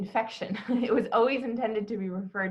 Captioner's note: laughs